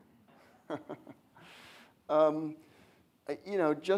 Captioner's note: laughs